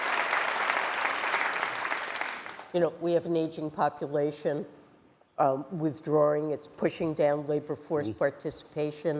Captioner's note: applause